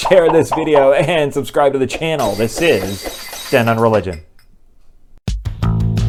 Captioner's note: glass breaking